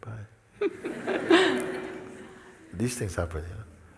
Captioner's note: laughter